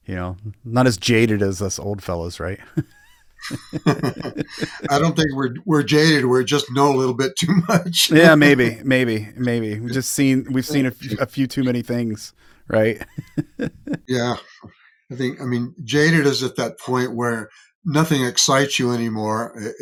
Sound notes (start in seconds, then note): 2.6 both laughing